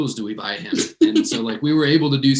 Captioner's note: chuckles